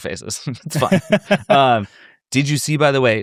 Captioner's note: chuckle